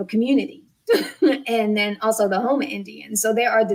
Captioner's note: laughs